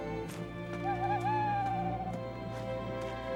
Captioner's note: owl hoots